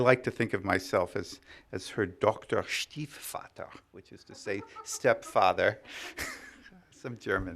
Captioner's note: speaking german